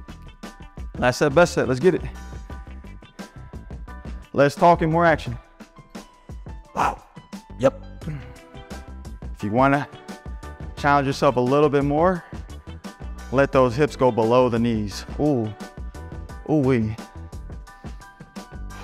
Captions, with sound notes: That's the best. Let's get it less talking more action *breathing* Yep. If you want to challenge yourself a little bit more, let those hips go below the knees. Ow, ow we